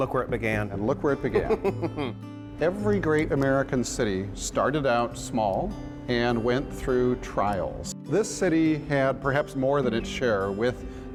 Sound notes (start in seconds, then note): 1.4 laughing